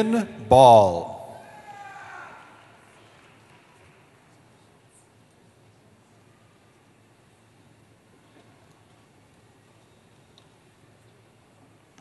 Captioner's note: cheering